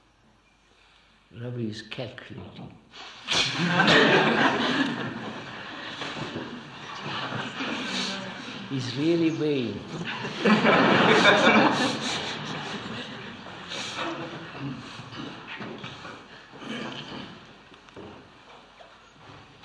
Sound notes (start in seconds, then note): 3.4 laughter